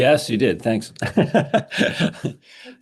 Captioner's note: laughs